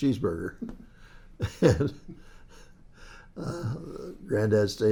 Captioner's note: laughs